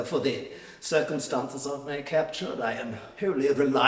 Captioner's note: none